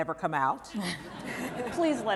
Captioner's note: laughter